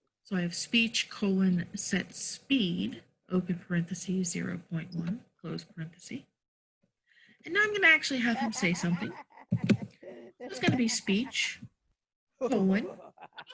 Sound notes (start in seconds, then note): 9.5 multiple laugh tracks in background; 12.4 multiple laugh tracks in background